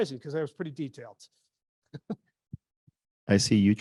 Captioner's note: laughs